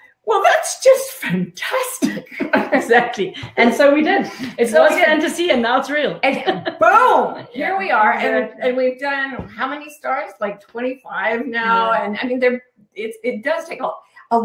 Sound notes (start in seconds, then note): 2.0 all laughing